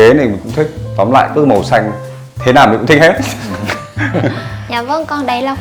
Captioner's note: laugh